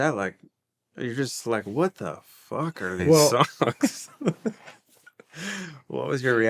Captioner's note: laughing